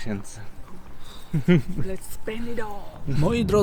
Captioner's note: laughter